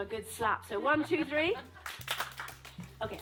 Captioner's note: A single clap